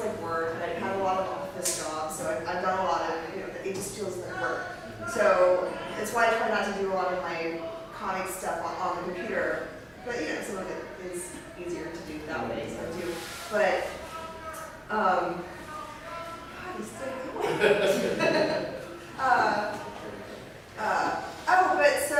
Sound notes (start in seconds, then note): 13.7 still shouting outside; 20.9 laughs